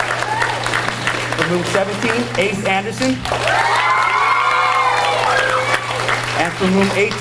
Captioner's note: audience cheers and applauds